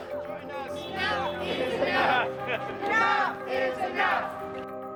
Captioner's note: crowd chanting